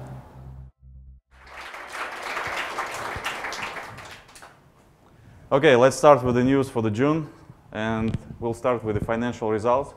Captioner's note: аплодисменты